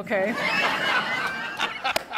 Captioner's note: laughter